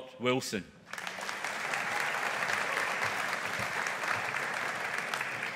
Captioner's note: audience applauding